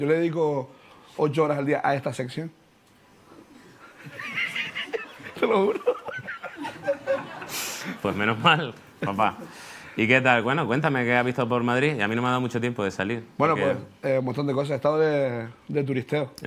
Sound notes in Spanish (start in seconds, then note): 3.7 riendo; 3.9 Risas